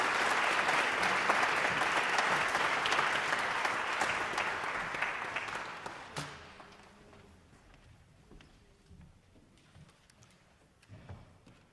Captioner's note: applause